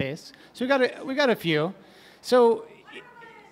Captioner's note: shouting